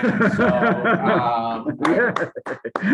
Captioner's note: laughter